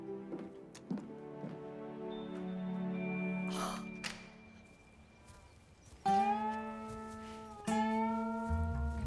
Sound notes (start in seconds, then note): 3.5 gasps